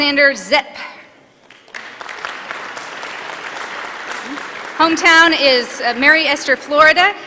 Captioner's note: applause